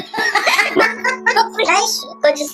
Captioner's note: laughs